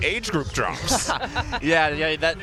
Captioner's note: laughter